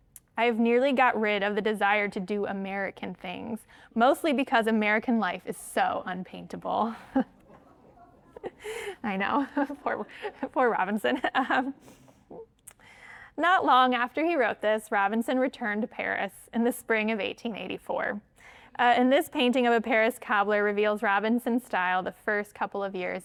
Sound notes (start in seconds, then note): 7.1 all laugh